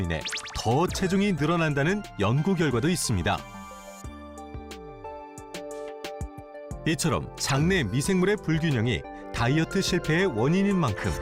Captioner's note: voiceover